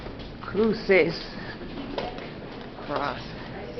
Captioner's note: speaking Spanish